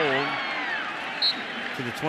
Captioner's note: cheering; whistle blows